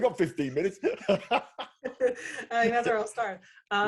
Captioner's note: laughing